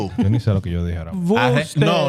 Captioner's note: speaking In Foreign Language